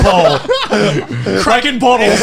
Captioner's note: laughing